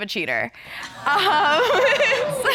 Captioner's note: chuckles